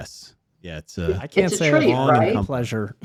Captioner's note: all laughing